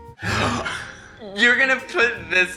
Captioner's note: gasps